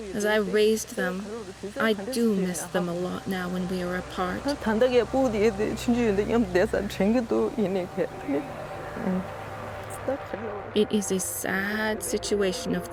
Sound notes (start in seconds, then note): 4.8 speaks foreign language